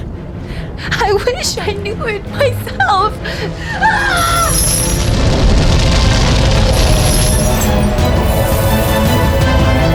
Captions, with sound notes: - I wish I knew it myself! (screams) (flames roar and crackle) (dramatic orchestral music)